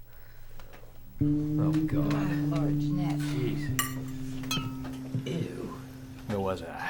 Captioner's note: disapproving grumbling